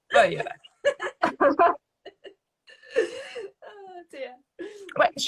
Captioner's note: laughing